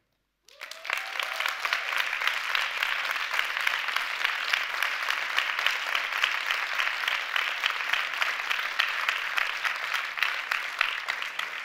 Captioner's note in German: Applaus